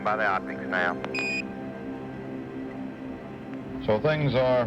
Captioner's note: beeps